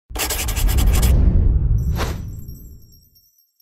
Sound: writing Noise

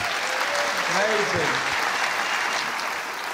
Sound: applause

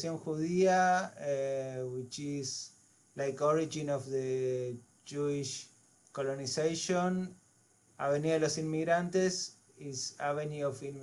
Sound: spanish

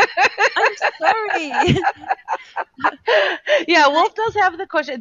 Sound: laughing

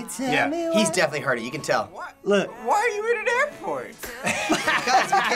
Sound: laughs

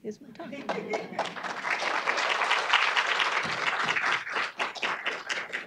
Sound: audience clapping

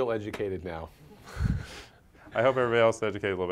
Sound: laugh

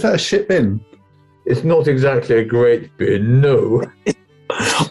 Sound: low voice

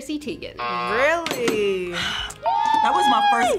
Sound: buzzer rings

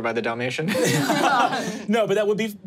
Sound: players laughing

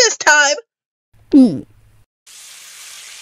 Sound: gulp

